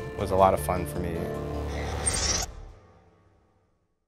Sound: mechanical sfx

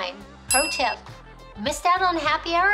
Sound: bell rings

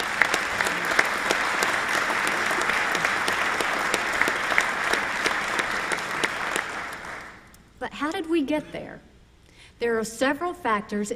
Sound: applause

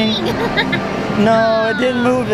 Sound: laughs

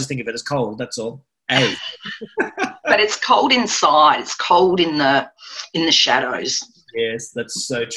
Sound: laughter

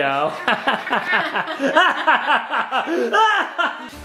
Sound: laughing

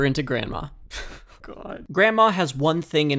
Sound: laughs

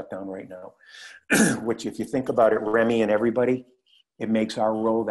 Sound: cough

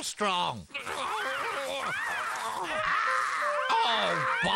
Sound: crows Cawing

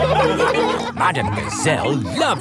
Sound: laughing

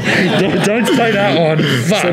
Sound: laughing

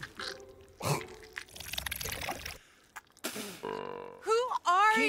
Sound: splutters; spits; monster burps

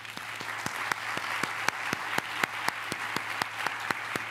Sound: applause

